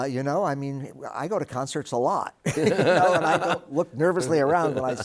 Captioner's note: both laughing